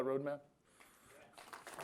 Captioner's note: applause